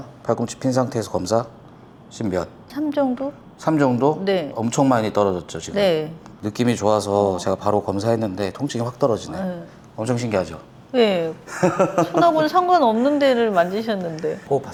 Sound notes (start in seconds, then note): 11.4 laughs